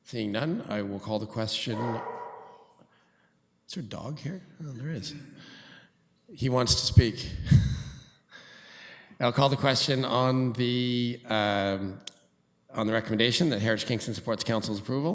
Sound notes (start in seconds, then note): 1.7 dog barks; 7.0 laughter